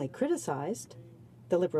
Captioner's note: speaking French